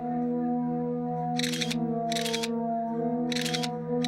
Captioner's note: camera shutter clicking